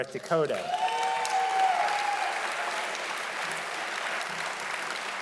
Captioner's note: audience applauding loudly